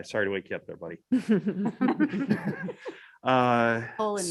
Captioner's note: laughs